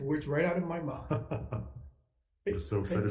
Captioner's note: chuckles